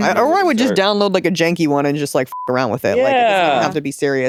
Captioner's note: beep